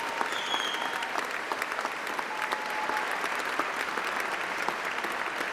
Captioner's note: applause